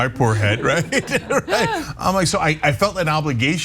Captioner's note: laugh